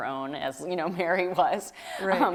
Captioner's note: laughs